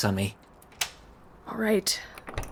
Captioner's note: door unlocks